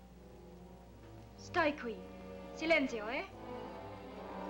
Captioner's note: speaks in Italian